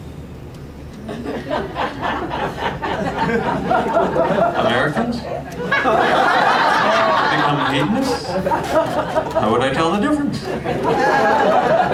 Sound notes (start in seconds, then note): 1.0 laughter; 5.9 laugter